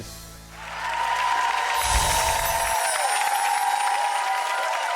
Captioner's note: audience applauds